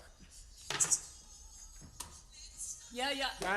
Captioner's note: ringtone goes off